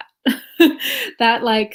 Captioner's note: laughs